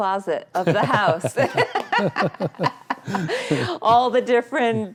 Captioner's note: both laughing